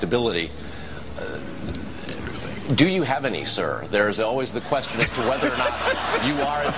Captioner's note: laughter from crowd